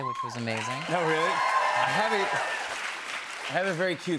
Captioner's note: cheers and applause